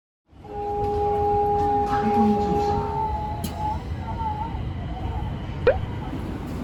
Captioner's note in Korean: 일본 지하철 소리